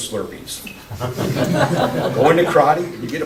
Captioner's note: laughter